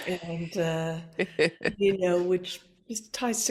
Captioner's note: laughs